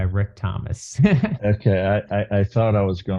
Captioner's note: laughs